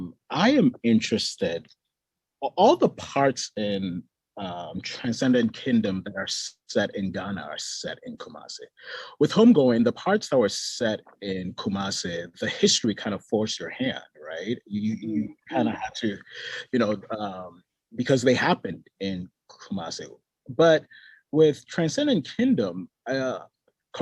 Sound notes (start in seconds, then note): none